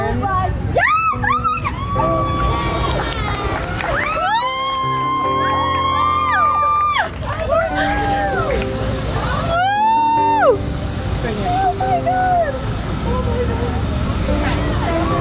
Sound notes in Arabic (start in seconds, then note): 3.9 الهتاف والتصفيق